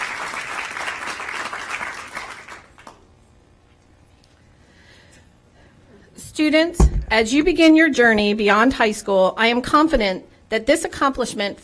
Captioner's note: applause